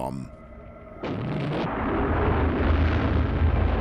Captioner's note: explosion